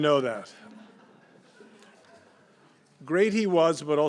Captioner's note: laughter